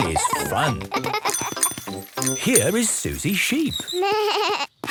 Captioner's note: bike bell; bleating